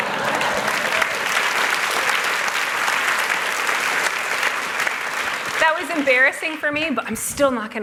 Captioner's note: applause